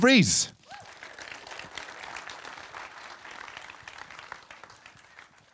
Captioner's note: audience applauding